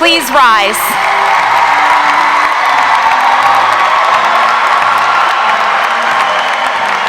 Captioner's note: spectators cheering; audience applauding